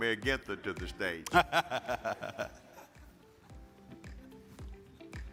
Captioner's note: laughing; attendees chuckling; upbeat music